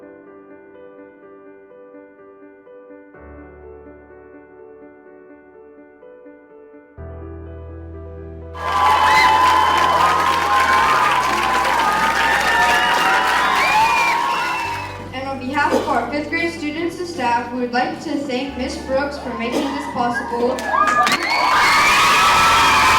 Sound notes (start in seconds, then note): 8.5 applause; 20.4 applause